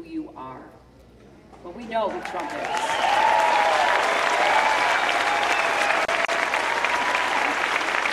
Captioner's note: cheering